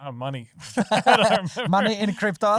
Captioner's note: laughing